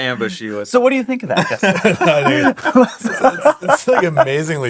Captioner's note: laughing